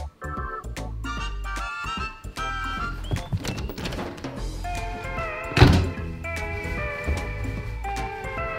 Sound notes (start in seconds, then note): 2.7 door opening and closing